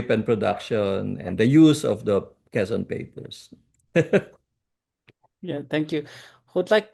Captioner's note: laughs